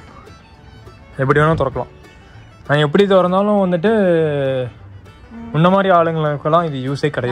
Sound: sarcastically

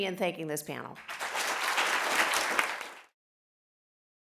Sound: applause

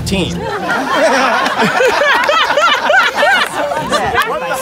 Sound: crowd laughs

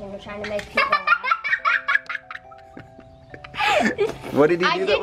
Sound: laughing

